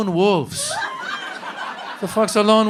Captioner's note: laughter